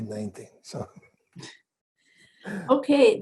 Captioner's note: chuckles